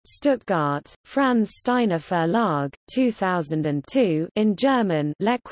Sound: in German

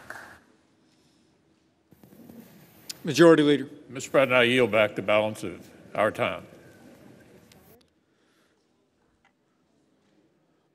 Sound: applause

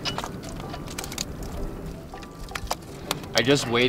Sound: fish thumping

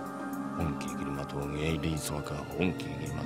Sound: chanting

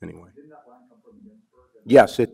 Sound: man speaks softly

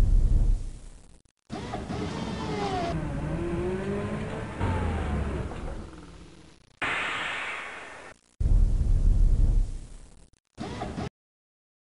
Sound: machine shop noises

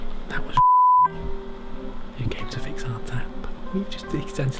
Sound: beep

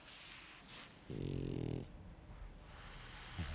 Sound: Helga snores

